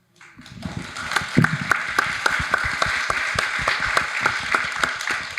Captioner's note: audience applauding